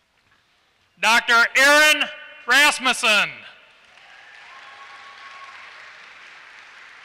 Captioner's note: applause